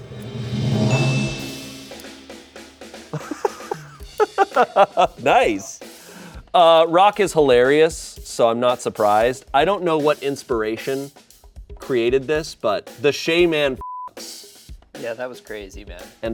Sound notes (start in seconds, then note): 0.0 bright music; 0.1 bell dings; 2.9 upbeat music; 13.8 beep